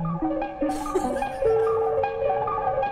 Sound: laughs

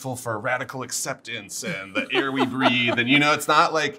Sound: laughs

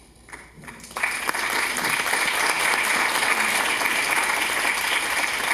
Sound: audience applauding

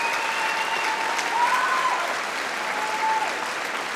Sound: applause

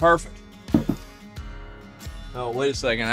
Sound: small thud

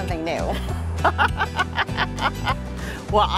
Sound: laugh

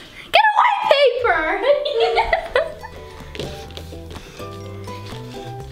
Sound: laughs

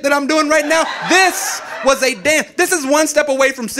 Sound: audience laughing

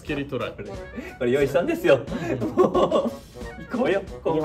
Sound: laughs

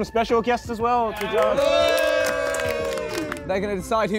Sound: Sidemen applauding

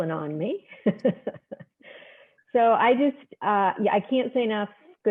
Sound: laughter

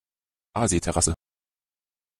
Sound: fast Pronunciation

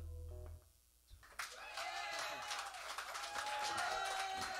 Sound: cheers and applause

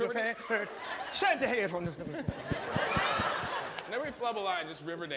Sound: audience laughing

